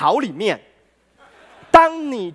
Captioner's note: laughter